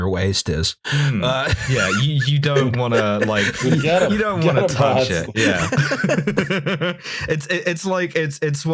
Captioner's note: laughter